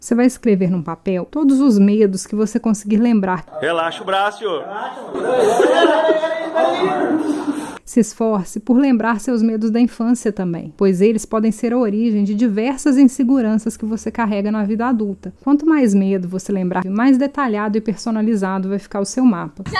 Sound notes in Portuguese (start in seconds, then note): 4.6 risos e gemidos